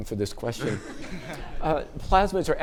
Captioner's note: audience chuckling